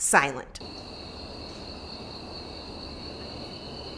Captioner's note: crickets